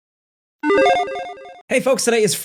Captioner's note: electronic beeping